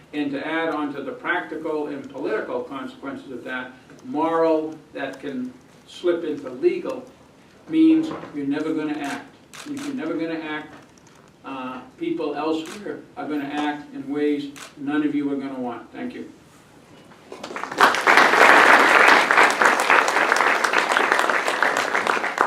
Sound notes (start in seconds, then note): 17.3 applause